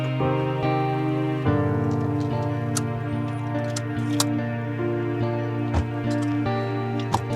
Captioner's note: seatbelts clicking